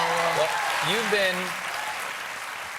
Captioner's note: applause